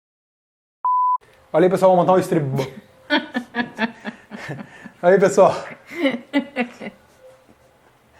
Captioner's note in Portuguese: risos